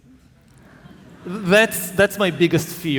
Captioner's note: audience laughing